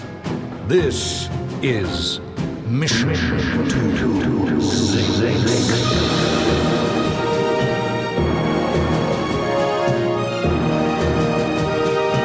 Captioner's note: echoing